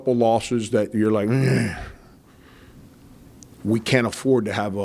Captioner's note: grunts